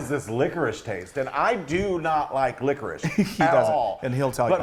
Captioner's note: laughing